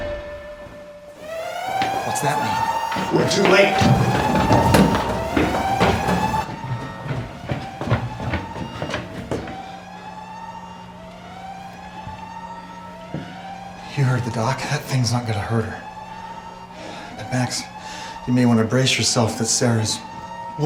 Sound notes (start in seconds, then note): 1.0 alarm wailing